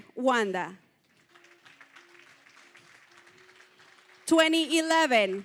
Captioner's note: applause